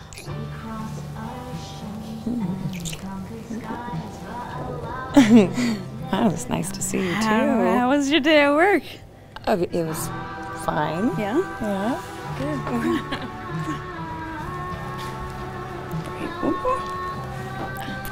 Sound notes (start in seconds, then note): 5.1 both giggle; 12.4 giggles